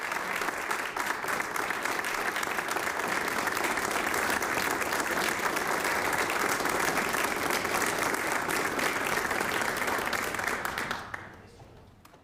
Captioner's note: applause